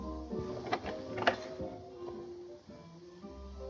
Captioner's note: doorknob Turns